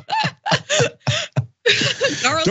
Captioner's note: laugh